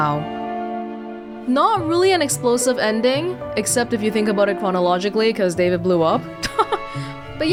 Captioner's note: chuckles